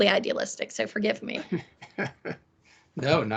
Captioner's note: laughing